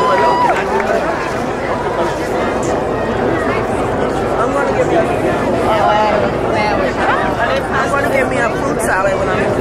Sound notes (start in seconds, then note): 0.9 crowd chattering